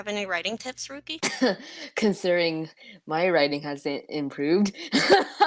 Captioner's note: cough; laughter